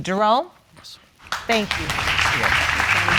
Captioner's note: audience applauds